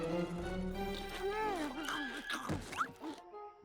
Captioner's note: munch! munch!